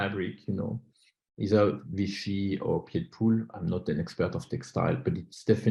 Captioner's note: french